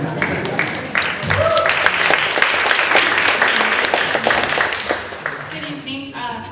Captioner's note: applause